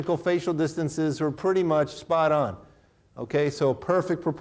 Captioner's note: none